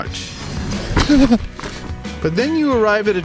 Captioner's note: biker moans